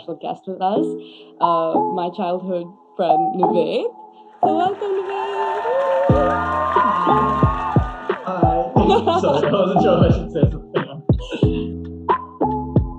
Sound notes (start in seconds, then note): 5.9 crowd cheering; 11.3 lo-fi music